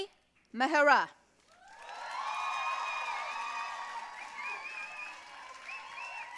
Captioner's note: audience cheering and applauding